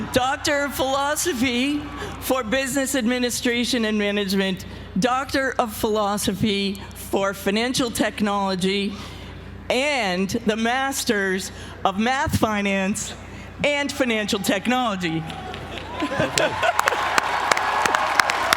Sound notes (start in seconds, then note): 15.3 laugh; 15.4 applause